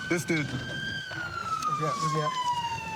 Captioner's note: siren wailing